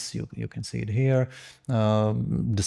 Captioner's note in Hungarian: none